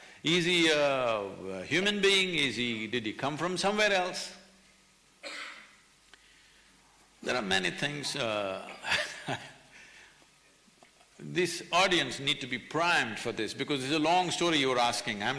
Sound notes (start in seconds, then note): 8.8 laughs